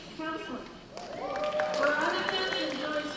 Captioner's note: cheers and applause